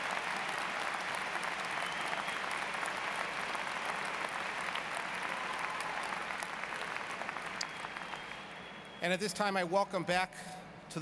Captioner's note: applause